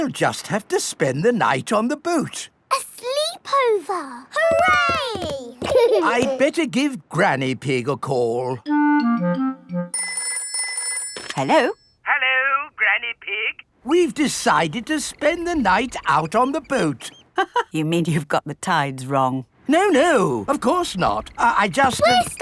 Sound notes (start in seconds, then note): 9.9 telephone ringing; 17.6 laughs